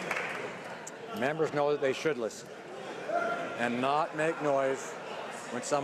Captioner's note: cheering/Applause